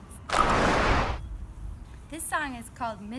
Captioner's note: whooshing